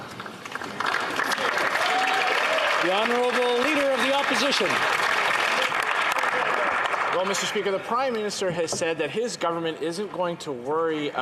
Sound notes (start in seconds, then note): 3.1 speaking French